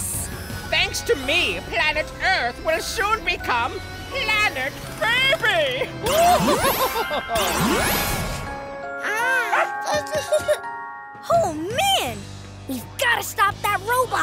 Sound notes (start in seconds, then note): 6.1 giggling; 8.7 cooing